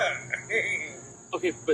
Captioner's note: Jerry laughs